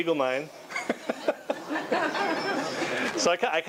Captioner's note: laughing